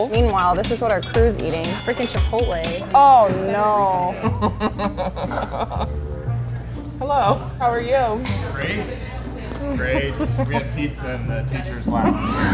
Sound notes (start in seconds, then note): 4.1 laughing